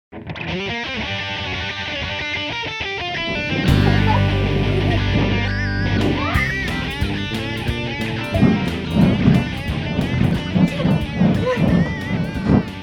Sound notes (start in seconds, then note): 0.3 rock music; 3.7 squealing